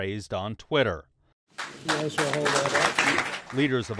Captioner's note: clapping